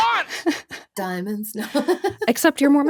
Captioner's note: chuckles